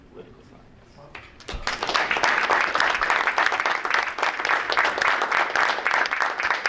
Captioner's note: group applauding